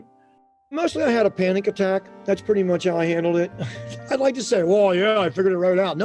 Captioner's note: chuckle